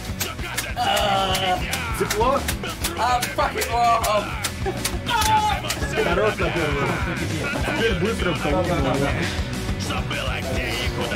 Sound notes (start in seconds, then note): 6.0 speaking in foreign language; 8.5 lively music